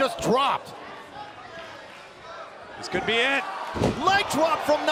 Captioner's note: crowd cheering